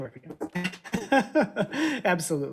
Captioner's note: laughs